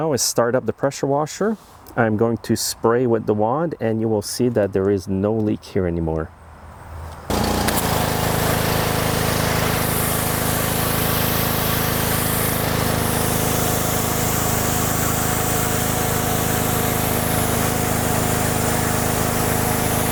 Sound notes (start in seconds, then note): 7.7 pressure washer roaring